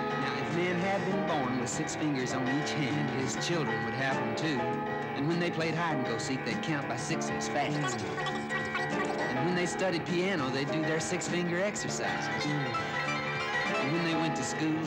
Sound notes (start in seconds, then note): 7.8 computer Chattering; 12.4 piano